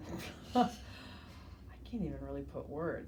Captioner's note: laughs